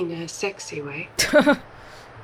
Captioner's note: chuckles